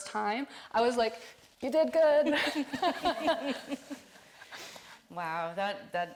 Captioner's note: all laughing